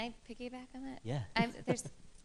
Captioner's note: laughter